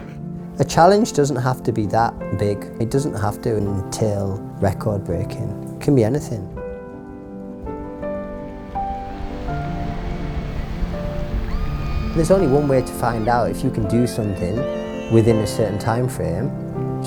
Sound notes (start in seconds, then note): 8.2 upbeat instrumental; 11.0 excited screams